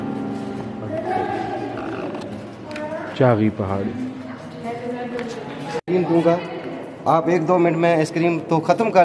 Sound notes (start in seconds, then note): 2.1 people Chattering